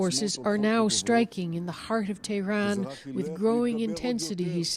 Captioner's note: speaking alternate language